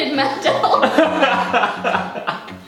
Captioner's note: both laughing